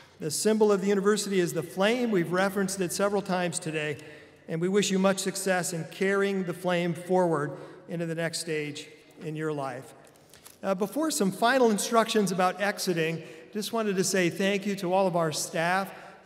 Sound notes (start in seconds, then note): none